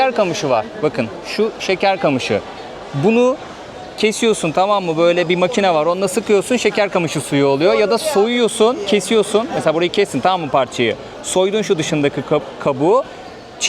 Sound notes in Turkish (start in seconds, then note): none